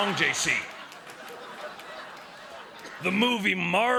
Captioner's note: laughter